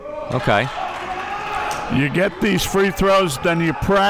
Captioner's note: audience applauding